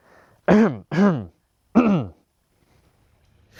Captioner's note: not-subtle coughing